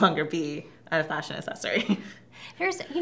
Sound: laughs

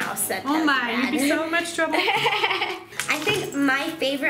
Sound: laughing

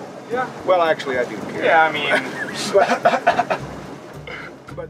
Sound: laughter

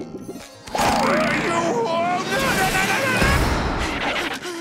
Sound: screaming

